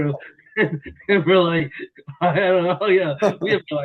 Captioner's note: laughter